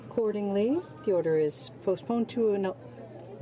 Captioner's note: speaking in french